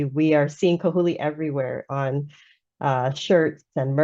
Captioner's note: speaking in foreign language